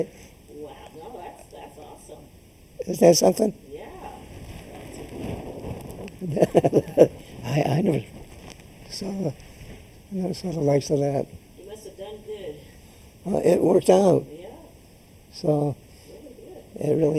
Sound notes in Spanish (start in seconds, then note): 0.6 Laughs; 6.0 Laughs